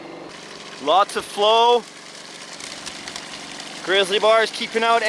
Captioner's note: water splashing